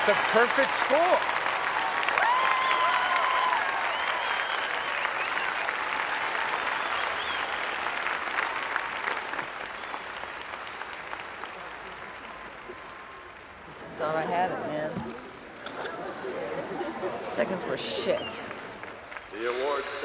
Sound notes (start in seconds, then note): 1.5 audience applauding; 1.5 audience cheering